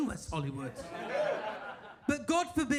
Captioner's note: audience laughs